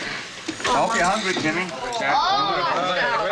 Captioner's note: all exclaiming happily